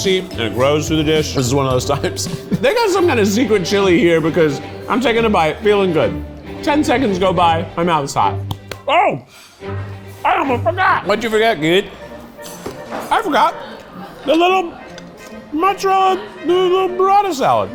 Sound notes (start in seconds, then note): 1.9 laughs; 8.5 claps